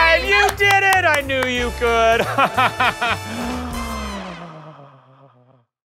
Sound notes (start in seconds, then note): 1.9 laughing